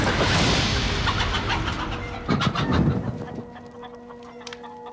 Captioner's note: wood thudding; chickens squawking; pensive music